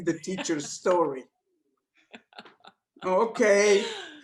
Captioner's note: laughter